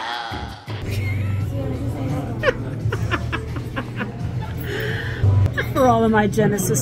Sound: laughter

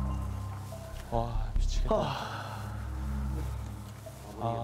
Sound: sighing.. sigh

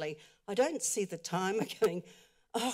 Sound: chuckles

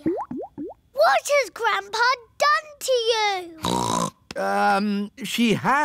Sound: snorts

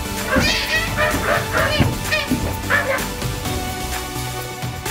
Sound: making monkey noises; techno music playing

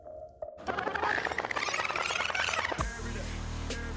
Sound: tape rewinding

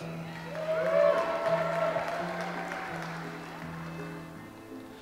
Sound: audience applauds

